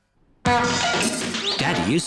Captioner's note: crashing